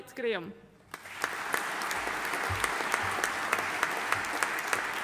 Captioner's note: audience applauding